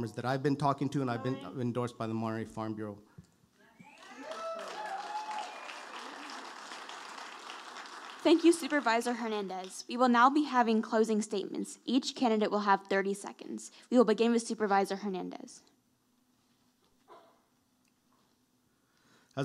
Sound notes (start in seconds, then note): 3.8 audience applauding